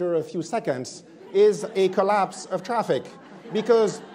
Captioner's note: attendees laughing